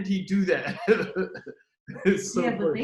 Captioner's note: laughs